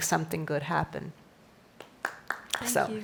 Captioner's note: applause